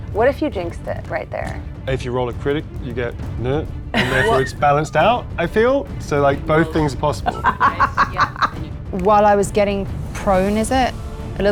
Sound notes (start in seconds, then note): 6.4 laughs